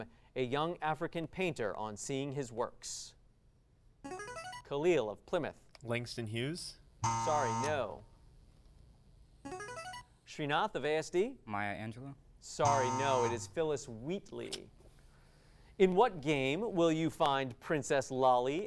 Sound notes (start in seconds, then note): 3.6 device sound; 7.0 buzzing sound; 9.3 device sound; 12.6 buzzing sound